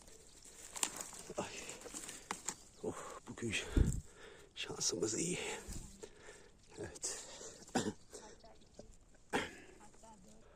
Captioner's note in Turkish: boğazını temizler